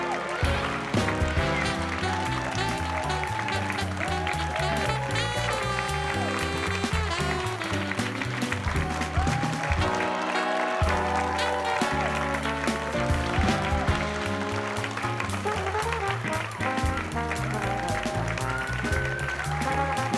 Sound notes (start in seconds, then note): 0.1 bright music continues; 4.1 audience applause continues; 4.1 audience cheering continues; 8.0 bright music continues; 12.0 audience applause continues; 12.0 audience cheering continues; 16.1 bright music continues